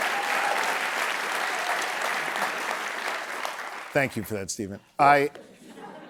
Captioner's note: applause